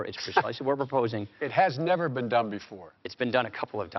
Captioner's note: chuckles